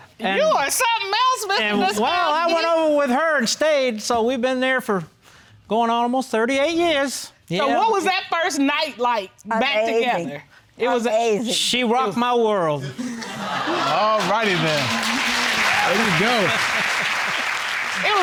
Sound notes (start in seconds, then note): 13.4 audience exclaiming; 15.4 all applauding; 15.8 chuckling